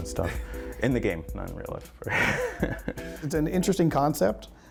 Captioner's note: laughs